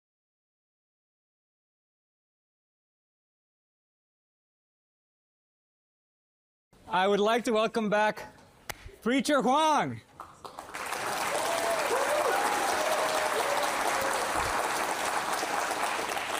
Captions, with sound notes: I would like to welcome back Preacher Huang. [APPLAUSE]